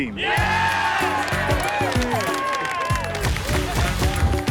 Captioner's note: all cheering